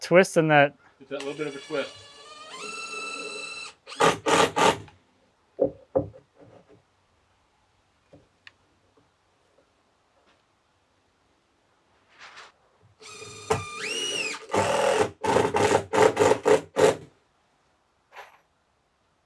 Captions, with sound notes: - Just that twist and that. - That little bit of a twist. (drill whirring) (wood clunking) (drill whirring)